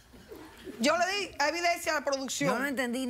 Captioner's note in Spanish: risas